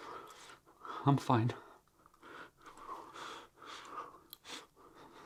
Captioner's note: breathing heavily